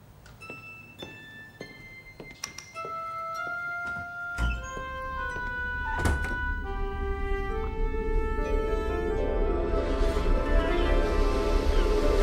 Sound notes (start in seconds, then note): 0.1 gentle music; 5.3 door thudding; 9.3 gentle mystical music